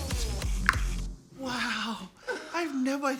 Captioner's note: clicks tongue